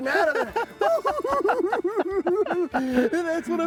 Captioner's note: cackling